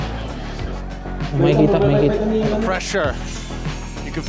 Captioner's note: commentator 1, in English